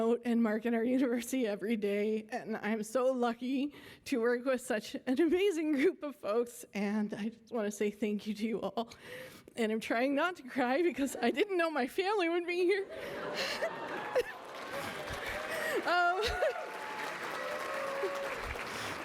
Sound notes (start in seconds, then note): 13.3 applause